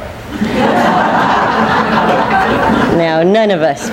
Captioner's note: people laughing